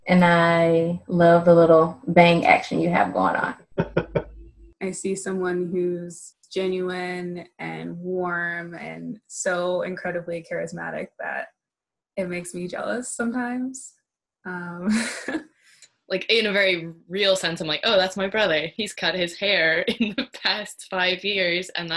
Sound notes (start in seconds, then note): 3.8 laughs; 15.1 chuckles